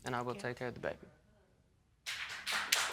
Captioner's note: audience clapping